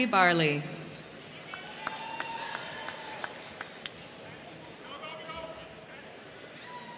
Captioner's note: crowd cheering; crowd clapping